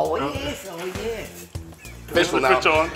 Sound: laughs

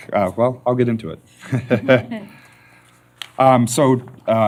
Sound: laughter

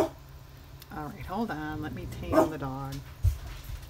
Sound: dog barks

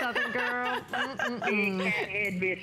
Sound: laughter

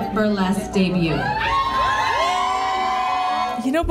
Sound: cheering

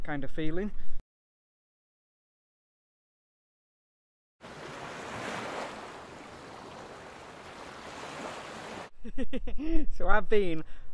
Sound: laughing

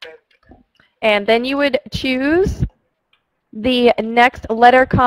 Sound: voiceover

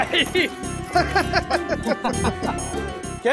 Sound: laughter

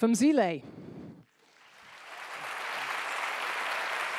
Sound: applause

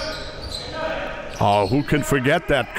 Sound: players bustling and yelling

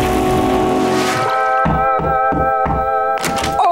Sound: knocking

